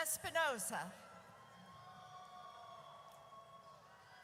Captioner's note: audience cheers